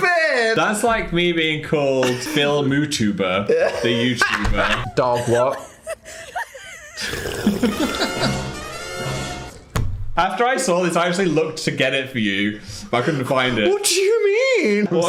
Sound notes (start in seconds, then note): 5.9 people laughing; 7.3 slurping and Phil laughing